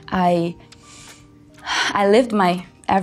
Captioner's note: deep inhale sound